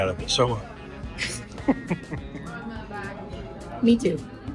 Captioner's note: laughing